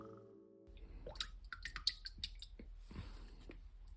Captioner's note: water drips